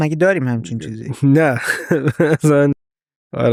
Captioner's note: laughs